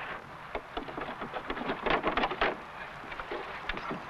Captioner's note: boxes rattling